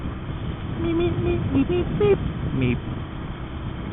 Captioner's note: meeps the Mario tune